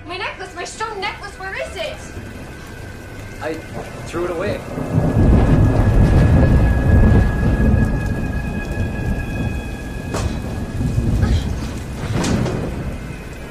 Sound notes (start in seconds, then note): 5.5 thunder rumbles